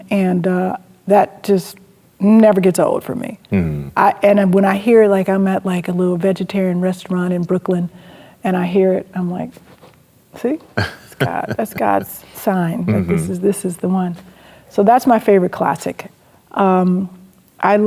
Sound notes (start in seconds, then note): 10.8 chuckles